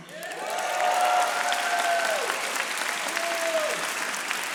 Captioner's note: audience applauding